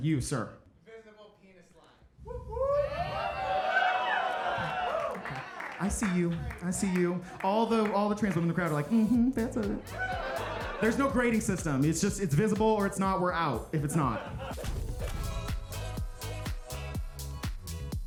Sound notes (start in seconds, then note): 2.3 audience cheering; 9.7 upbeat music; 14.5 upbeat music continues